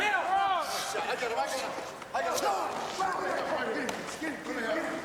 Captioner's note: men chattering